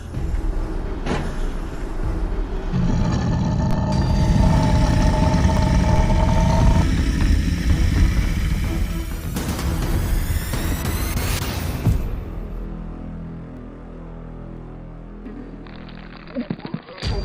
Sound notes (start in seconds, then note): 2.6 deep Growl